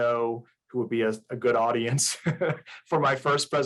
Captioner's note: chuckles